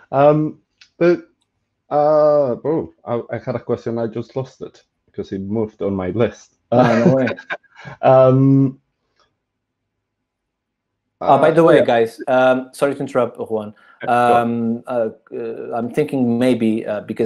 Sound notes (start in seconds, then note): 6.7 chuckles